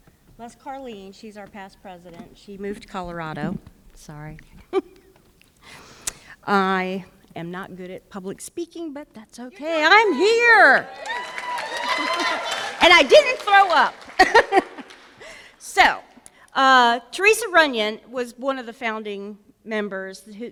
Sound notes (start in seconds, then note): 10.0 applause; 14.2 laughs